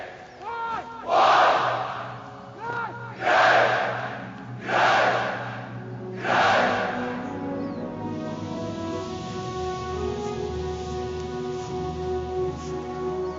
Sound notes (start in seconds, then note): 0.7 crowd; 4.6 crowd; 8.9 inspirational music